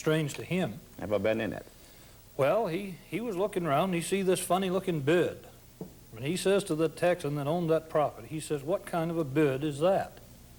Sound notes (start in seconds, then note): none